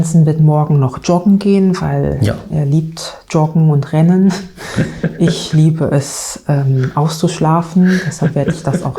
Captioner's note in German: gelächter